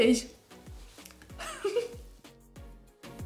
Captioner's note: laughing